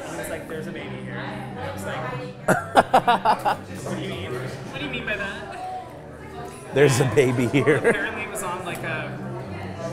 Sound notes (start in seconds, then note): 2.5 laughing; 7.8 laughs